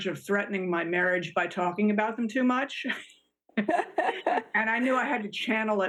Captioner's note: both chuckle